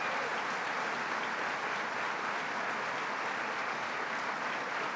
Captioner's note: applause